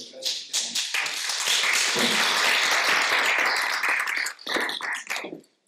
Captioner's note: audience applauding